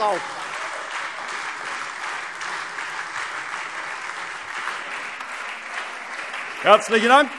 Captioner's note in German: Lebhafter Beifall SPD und Freie Demokraten